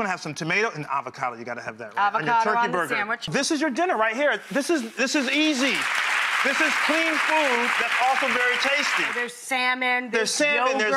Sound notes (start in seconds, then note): 5.2 audience applause